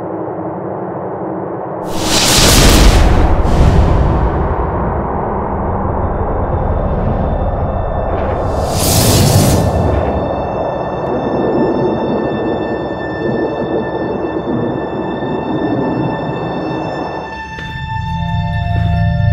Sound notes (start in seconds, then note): 1.9 dramatic whooshing; 6.9 mysterious music